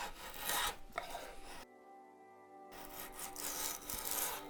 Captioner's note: tool scraping